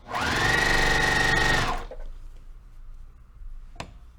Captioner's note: sewing machine rattling